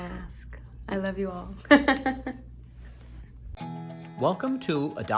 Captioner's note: chuckles